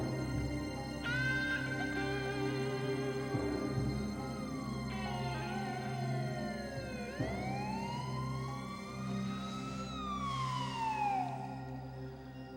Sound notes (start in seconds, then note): 4.9 siren wailing